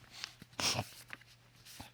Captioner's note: Judge Lake sniffles